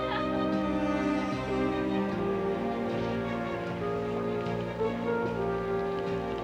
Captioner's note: laughter from street below